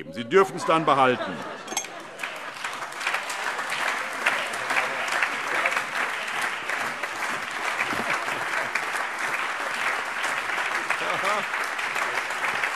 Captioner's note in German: Heiterkeit und Beifall